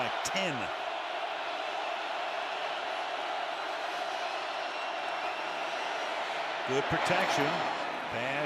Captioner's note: cheering